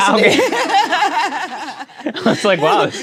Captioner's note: laughs